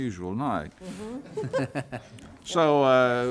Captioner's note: everyone chuckling